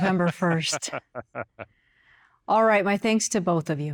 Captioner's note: laughs